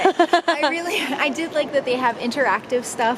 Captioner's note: laughs loudly